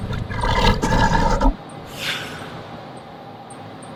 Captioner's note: growling